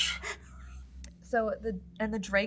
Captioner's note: giggles